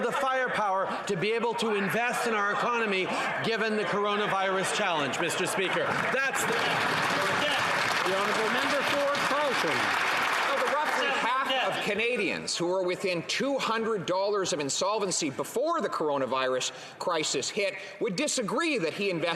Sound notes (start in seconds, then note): 10.1 some Applause